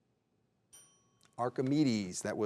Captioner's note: bell tings